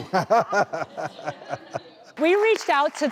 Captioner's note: laughter